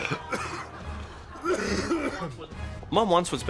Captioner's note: hacks his lungs out